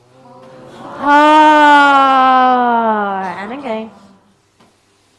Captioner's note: all sigh loudly